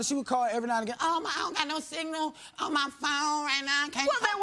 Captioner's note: none